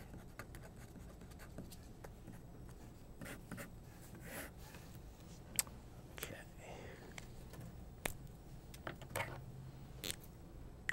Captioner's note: writing